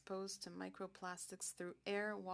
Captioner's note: speaking French